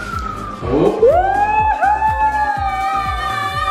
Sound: cheering

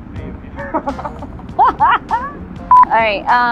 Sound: laughs

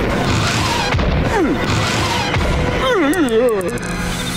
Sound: grunting

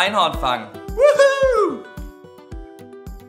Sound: screams of terror

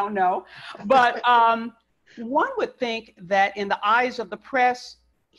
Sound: laughs

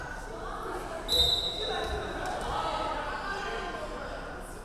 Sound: referee whistling

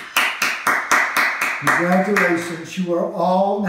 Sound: Mo clapping

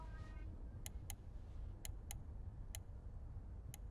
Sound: mouse clicking

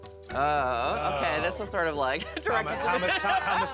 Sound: groans

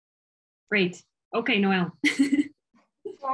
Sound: laughs

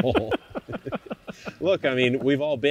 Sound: laughs

